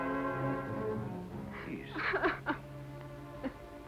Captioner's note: sobbing